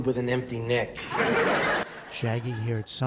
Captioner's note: laughter